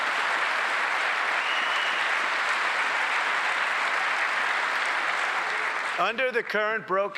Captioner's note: applause